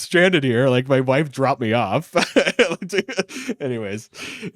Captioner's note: laughs